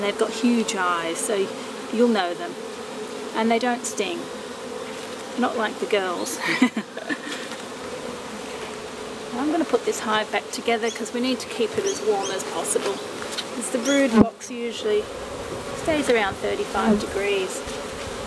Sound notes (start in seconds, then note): 6.4 chuckles; 8.5 bees buzzing